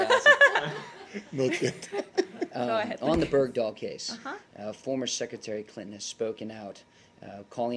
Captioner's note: laughter